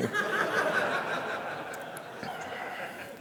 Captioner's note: laughter